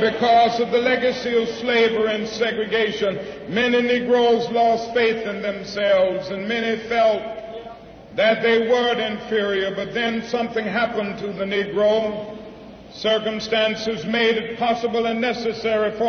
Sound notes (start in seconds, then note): none